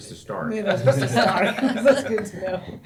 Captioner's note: laughter